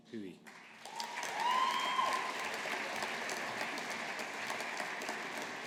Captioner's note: audience applauding